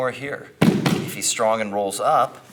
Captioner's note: loud thumping